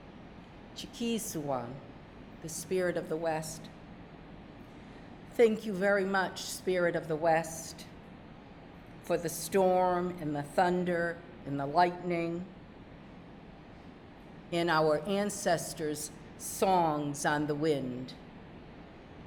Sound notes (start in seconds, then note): 0.8 speaking narragansett